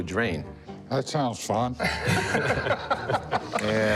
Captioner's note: laughter